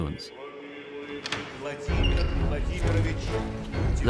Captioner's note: announcement in Russian